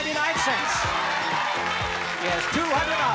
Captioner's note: cheering